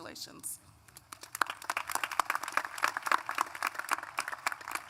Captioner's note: applause